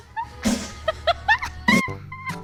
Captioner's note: laughing; farting